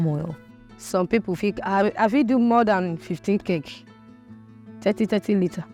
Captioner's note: speaking in foreign language